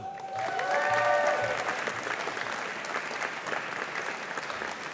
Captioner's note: audience applauding